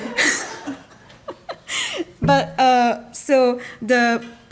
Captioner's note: audience laughing; laughs